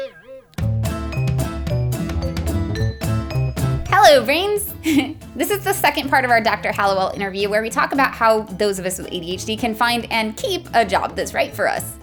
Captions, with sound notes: Hello Brains! *giggles* This is the second part of our Dr. Hallowell interview where we talk about how those with us with ADHD can find and keep, a job that's right for us.